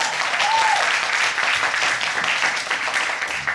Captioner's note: audience cheering